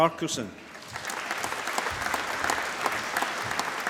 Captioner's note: applause